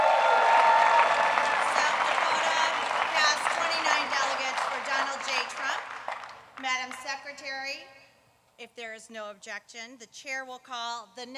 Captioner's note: applause